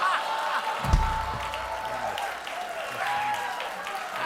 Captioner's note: laughter; applause